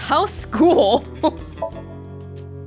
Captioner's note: chuckles